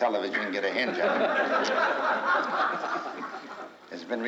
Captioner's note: crowd laughs